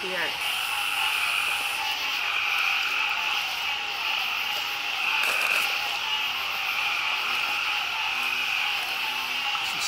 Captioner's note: insects sing